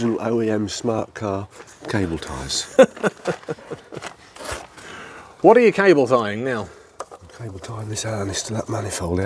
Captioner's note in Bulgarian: Смях